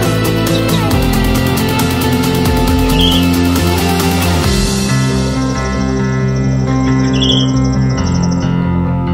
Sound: birds chirping

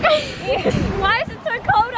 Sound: laughs

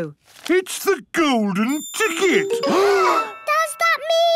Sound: gasps

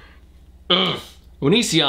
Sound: grunts in frustration

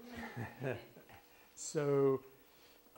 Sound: laughs

